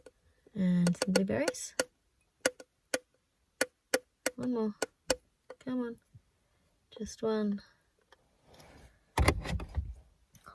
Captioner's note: light tapping; thud